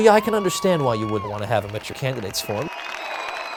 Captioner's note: cheering